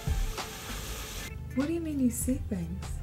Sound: water fountain

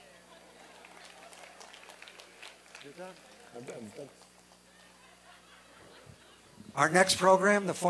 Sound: applause and cheering

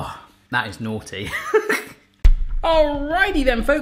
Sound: chuckles

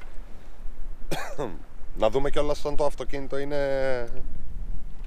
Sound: cough sounds

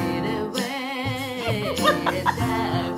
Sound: laughter

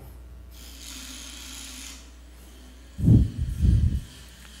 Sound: drone whirs

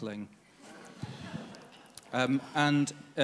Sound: audience laughs

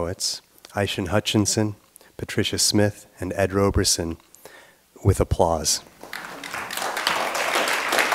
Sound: applause

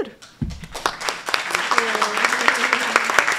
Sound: applause

